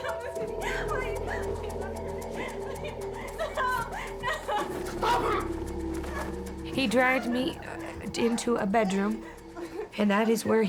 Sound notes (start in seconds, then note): 4.8 cries